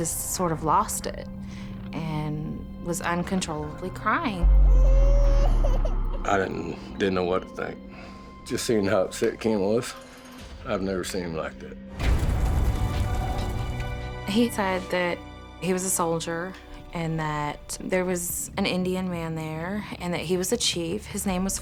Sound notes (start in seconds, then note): 4.6 crying; 12.5 dramatic music